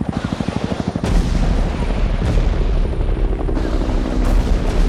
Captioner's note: helicopter whirs; booming